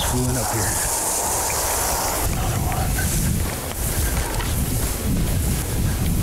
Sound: grass rustling, wind blowing

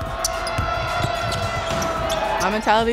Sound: crowd cheering

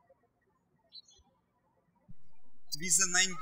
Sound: birds chirping

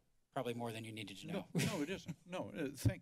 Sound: laughs

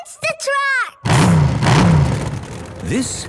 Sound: engines revving

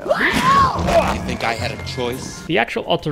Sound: squealing

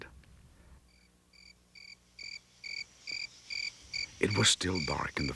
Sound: crickets chirping

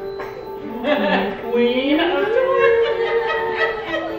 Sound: mom laughing

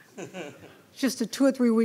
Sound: laughing

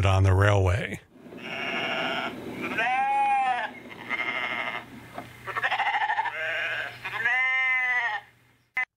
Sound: animal sounds

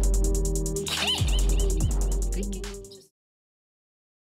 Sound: laughs

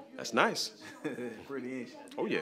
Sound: laughs

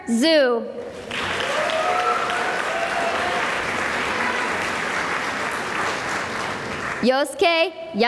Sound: applause

